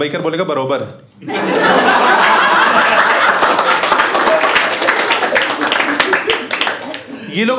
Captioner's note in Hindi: हँसना